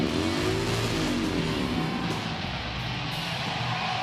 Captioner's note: motorcycle engine roaring; audience cheering